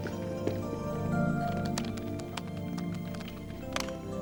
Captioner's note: Ved typing